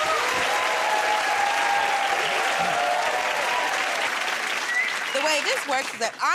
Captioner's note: cheers and applause